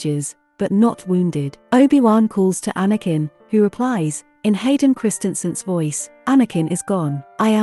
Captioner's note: in Hayden Christensen’s voice